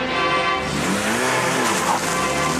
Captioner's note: revving